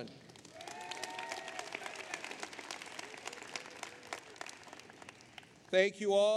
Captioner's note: applause